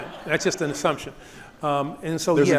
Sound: audience laughs

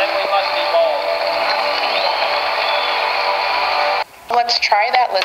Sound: audience cheers

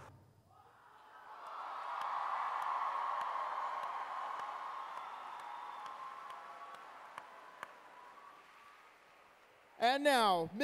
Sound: cheering

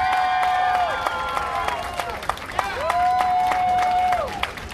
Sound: cheers and applause

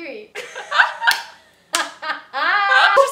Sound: laughs

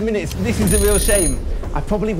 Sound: timer ringing

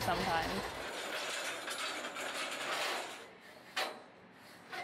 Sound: metal clattering

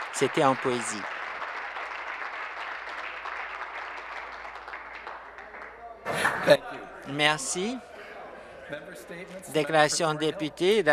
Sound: cheers and Applause; laughter

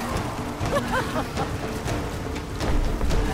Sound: laughs

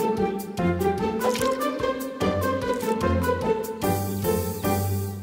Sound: playful music; water splashing

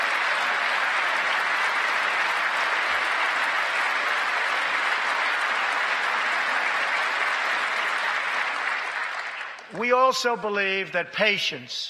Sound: applause

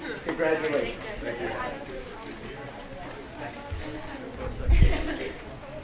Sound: audience chattering and laughing

